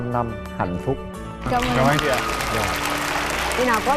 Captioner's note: applause